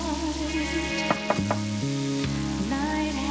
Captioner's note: knocking